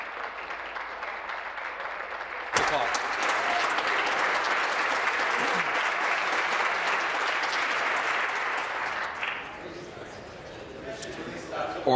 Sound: applause

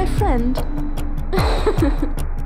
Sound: laughs

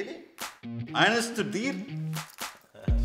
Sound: speaks in German

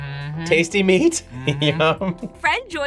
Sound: laughs

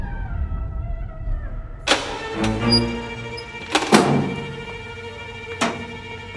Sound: door opens

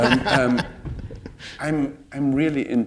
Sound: laughter

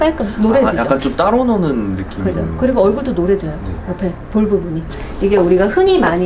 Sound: warm tone

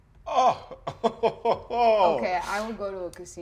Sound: laughs joyously

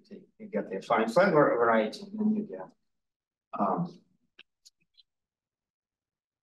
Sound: audio distorting

